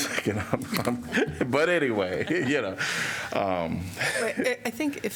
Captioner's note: laughter